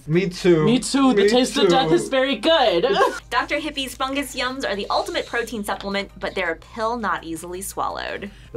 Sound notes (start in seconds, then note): 2.7 laughs